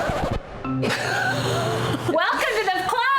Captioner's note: laughing